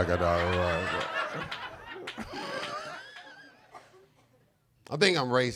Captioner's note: audience laughing